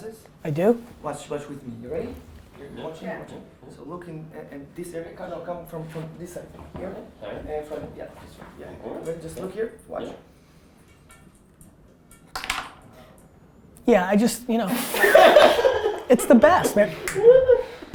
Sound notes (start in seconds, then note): 11.5 slam; 14.8 everyone laughs